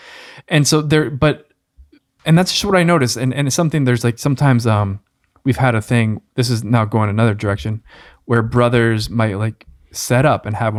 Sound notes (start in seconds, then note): none